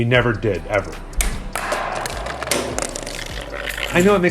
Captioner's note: discs clang